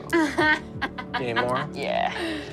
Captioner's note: laughs